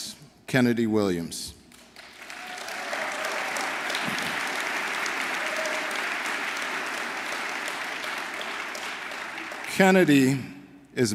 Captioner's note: applause